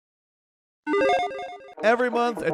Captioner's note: video game sound effect